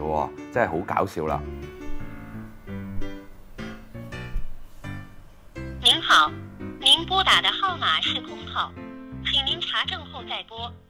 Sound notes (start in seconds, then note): 5.7 manderin